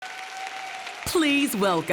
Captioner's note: audience clapping and cheering